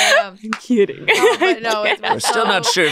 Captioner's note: laughs; claps